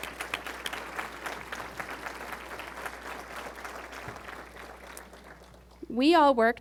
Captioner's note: applause